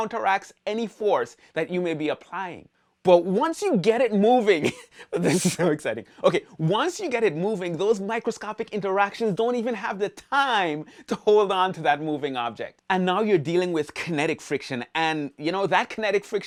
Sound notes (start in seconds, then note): 5.2 laughs